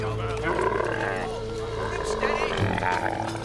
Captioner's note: camel grunts; grunts